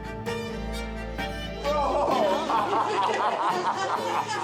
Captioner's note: dramatic music plays; crowd exclaims